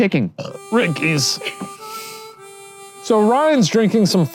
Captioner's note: burps; sad harmonica music